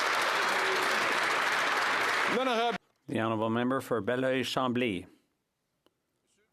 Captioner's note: some Applause